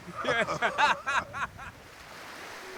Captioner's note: laughter